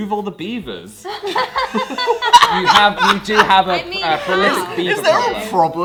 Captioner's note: all laugh